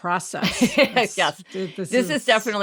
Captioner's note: laughs